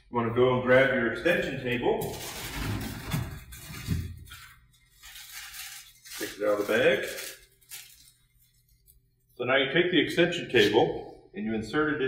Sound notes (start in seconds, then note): 2.0 plastic crinkling